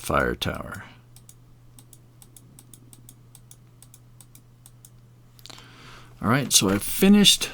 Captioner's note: mouse clicking